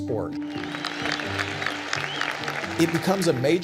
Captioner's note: crowd cheering